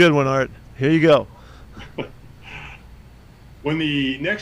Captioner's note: laughs